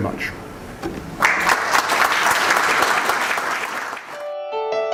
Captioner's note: applause